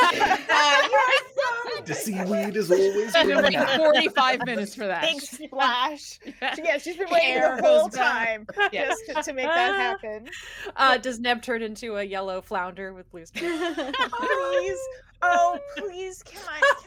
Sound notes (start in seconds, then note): 0.0 everyone laughs; 13.4 everyone laughs